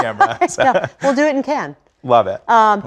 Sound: laugh

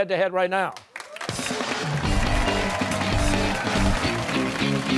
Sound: cheers and applause

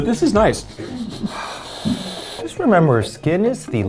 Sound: deep sniffle

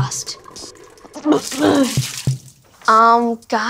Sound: throwing up

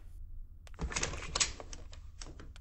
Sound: door opens

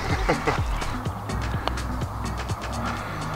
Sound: laughs

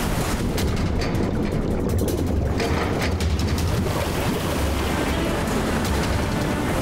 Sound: water gurgling; metal clanging; helicopter rotors thumping; urgent music

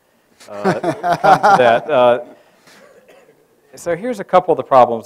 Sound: moderator laughs

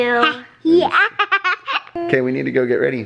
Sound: laughs

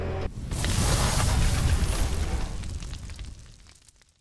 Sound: fire roaring; metal sizzling

